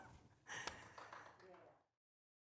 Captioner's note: distant clapping